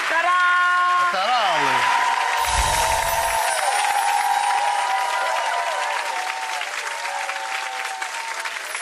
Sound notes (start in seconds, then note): 2.1 audience cheering; 2.4 tinkling chimes